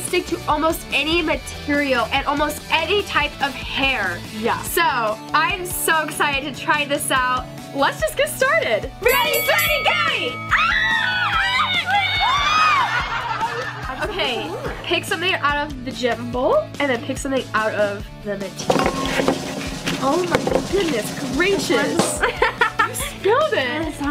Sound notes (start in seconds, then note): 10.3 squeals; 12.7 audience laughs; 22.2 laughs